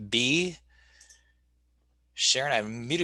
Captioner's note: clicking